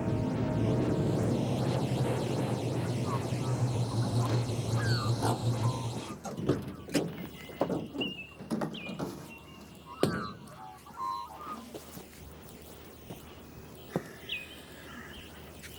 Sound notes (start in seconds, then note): 0.0 van engine rumbling; 6.3 birds chirping